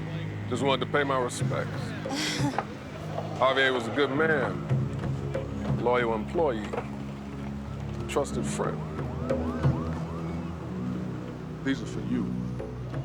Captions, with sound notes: Just wanted to pay my respects. (nervous chuckle) Javier was a good man, loyal employee, trusted friend. These are for you.